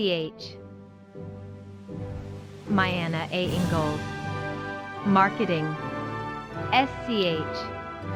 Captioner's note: wind blowing